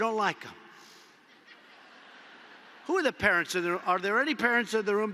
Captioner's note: laughter